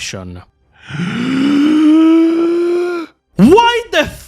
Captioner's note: inhale